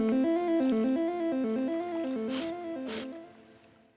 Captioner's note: sniffing